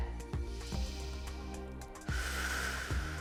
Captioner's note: exhales; inhales